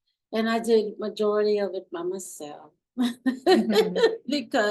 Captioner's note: laughs